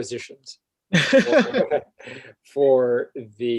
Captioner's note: laughs